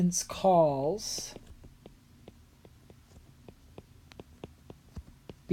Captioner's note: writing